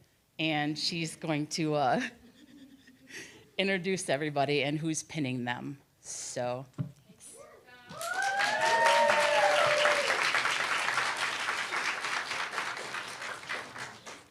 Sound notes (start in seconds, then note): 7.8 cheer, applause